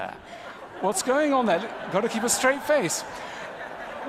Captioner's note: ضحك